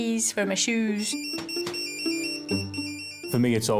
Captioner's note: pager rings